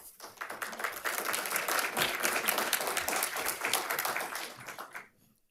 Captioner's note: audience applauding